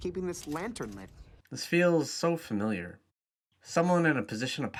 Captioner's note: voiceover